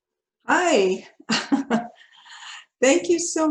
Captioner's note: laughs